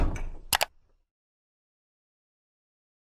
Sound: bang; click

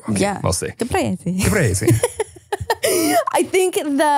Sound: laughing

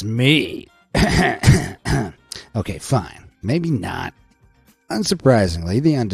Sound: coughs

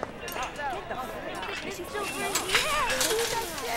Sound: excited chattering

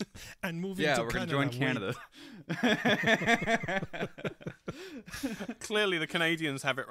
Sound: laughter

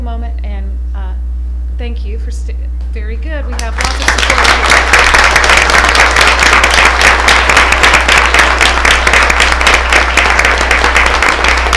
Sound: applause

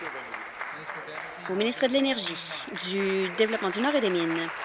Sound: applause

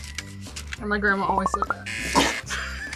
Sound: buzzer; both laugh

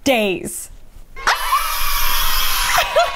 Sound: cheers; laughs

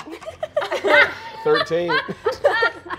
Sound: players laughing

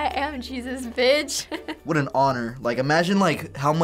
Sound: chuckles

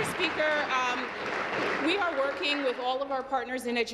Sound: applause

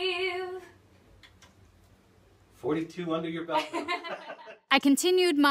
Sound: laughs

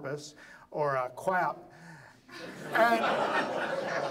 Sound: audience laughs

